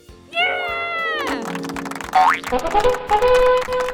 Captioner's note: silly sound effects